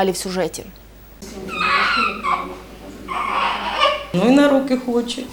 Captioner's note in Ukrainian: плач